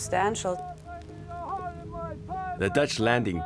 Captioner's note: man shouting